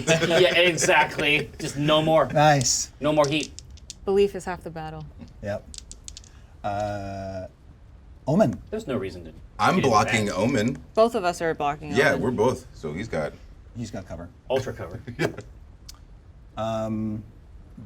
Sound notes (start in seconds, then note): 4.1 dice clack